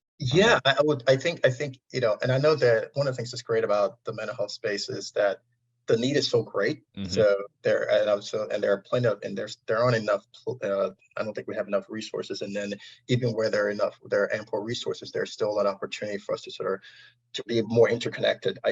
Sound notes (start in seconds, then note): 5.9 audio distortion